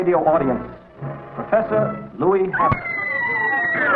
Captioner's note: Mary screaming; Mary screams